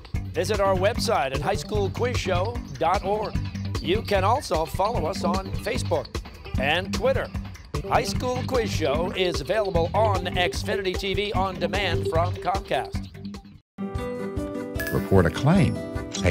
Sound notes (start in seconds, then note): none